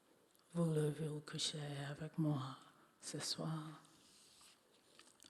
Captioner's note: speaking French